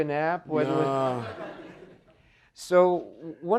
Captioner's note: audience laughing